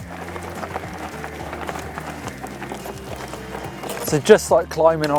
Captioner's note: gravel crunching